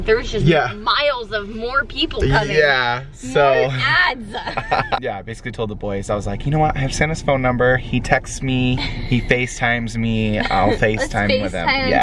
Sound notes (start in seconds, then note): 3.6 laughing